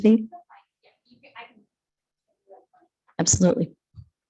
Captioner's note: faintly speaking